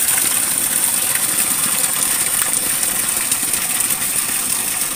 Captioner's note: sound of water